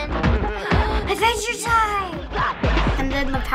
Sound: gasping

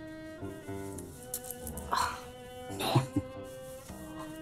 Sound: laughing

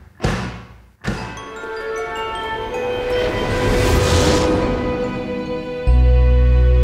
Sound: orchestral music; gentle chiming

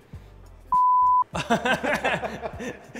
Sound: beep; laughs

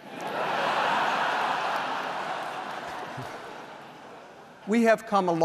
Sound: laughter

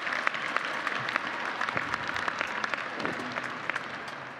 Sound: applause

